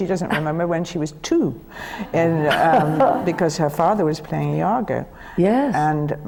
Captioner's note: laughter